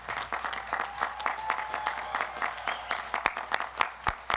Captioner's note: audience cheers